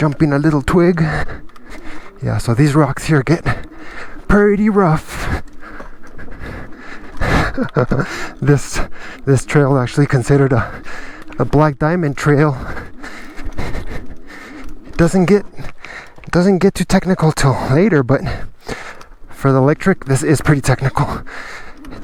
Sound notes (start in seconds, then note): 5.6 chuckle